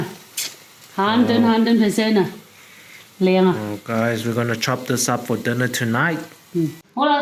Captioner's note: foreign